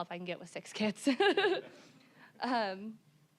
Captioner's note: all laughing